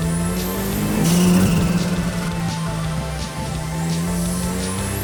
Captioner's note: engine revving